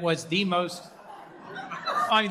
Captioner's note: laughter